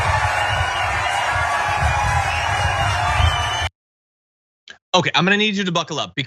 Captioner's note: applause